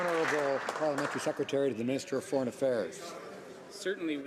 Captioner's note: some Applause